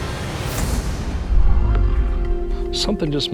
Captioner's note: low growling